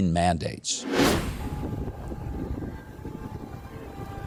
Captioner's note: wind whooshing